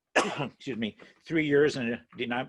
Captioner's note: coughs